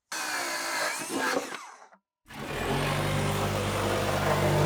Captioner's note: power tool whizzing